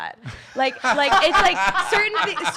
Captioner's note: laugh